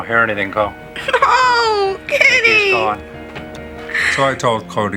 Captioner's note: sobs